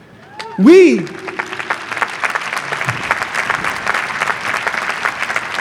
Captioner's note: audience applauding